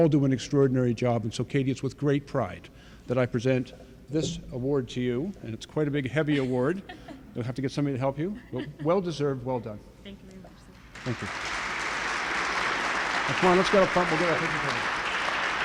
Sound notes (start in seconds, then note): 13.6 applause